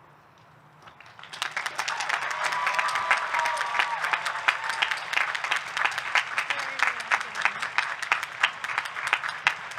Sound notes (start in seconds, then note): 0.9 audience clapping; 1.6 audience cheering